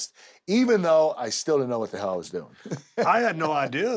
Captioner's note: laugh